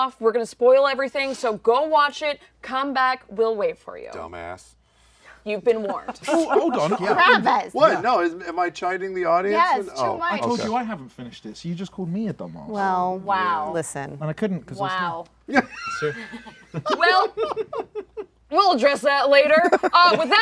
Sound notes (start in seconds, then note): 15.5 laughs